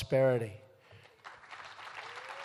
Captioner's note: applause